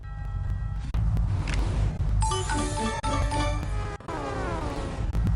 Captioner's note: festive Sounds